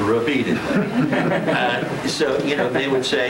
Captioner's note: laughter